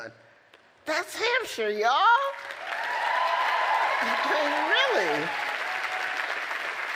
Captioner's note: applause